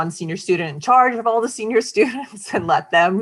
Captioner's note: chuckling